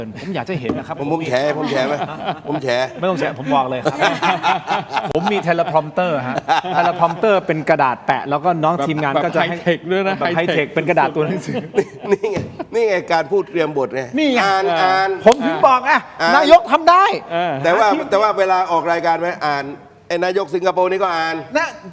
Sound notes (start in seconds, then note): 1.3 laughs